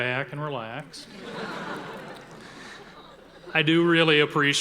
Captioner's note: audience laughing